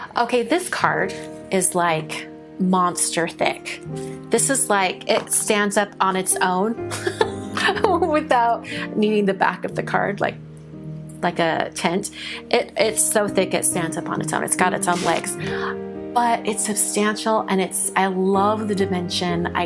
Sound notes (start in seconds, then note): 7.0 laughs